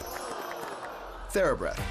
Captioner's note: crowd applauding